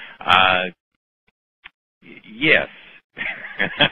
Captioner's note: laughter